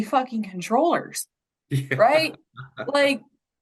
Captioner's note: chuckles